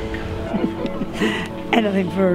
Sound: giggles

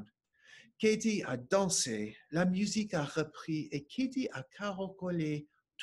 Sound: speaking French

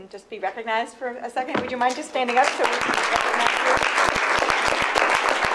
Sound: applause

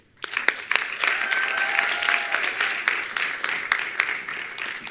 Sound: attendees applauding

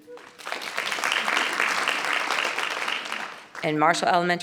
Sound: audience applauding

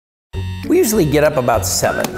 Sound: alarm clock buzzing

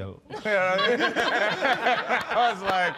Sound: laughing

